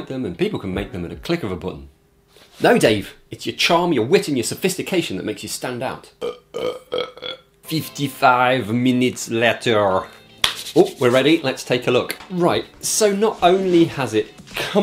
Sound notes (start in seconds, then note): 6.2 burp